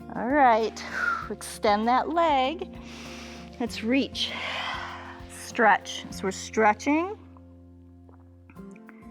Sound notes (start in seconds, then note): 2.8 exhales; 2.8 inhales